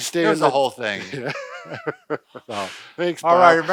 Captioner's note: both laughing